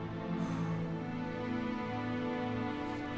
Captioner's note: sighs